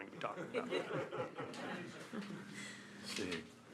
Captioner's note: laughing